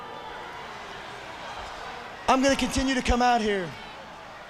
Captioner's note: crowd cheering